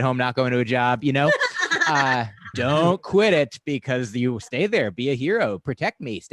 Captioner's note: laughter